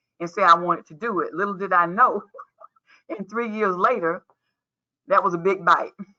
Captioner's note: laughs